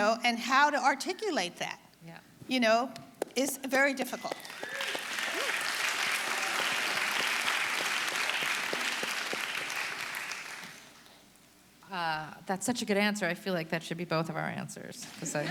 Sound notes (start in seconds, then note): 4.3 audience applauding